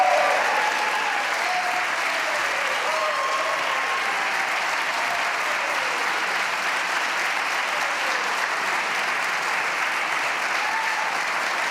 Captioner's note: applause